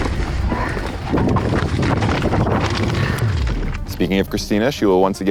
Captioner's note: air whooshing